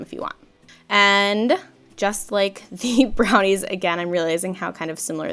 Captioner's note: laughs